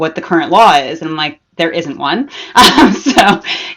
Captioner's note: laughs